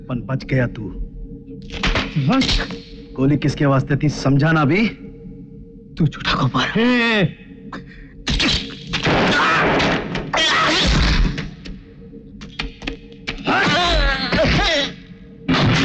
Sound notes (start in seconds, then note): 8.9 gunshot; 10.3 groans; 13.4 groans